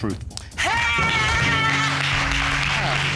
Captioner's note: exclaims